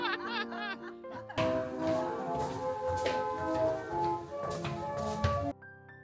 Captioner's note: tourists laughing; dancing shuffles